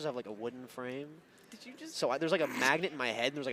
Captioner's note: chuckles